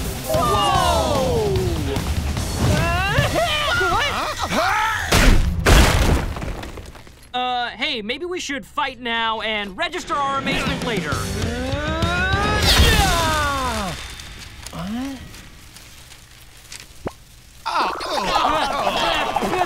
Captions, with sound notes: - Whoa! - Whoa! [screaming] - Whoa! - Huh? [crashing] Er... hey, maybe we should fight now and register our amazement later. [screaming] What? Ah, ew!